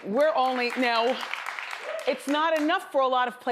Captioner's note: audience applauds